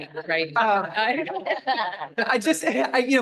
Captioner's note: laughter